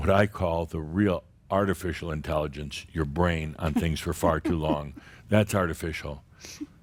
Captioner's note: giggles